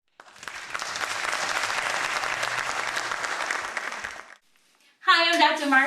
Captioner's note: applause